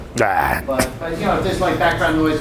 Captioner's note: groans